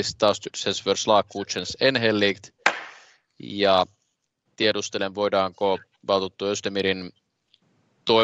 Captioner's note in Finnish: nuijan kopautus